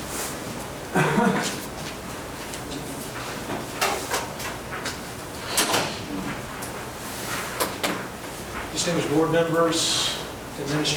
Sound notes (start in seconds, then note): 0.9 man coughing; 4.2 door closing